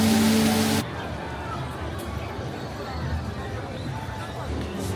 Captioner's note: crowd murmuring